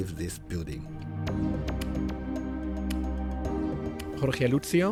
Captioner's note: voiceover